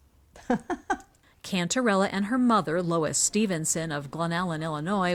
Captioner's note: voice-over